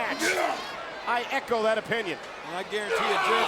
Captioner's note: grunting